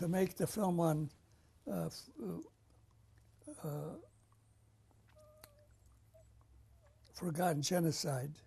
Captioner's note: pauses for 6 seconds